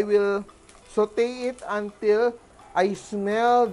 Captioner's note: sizzle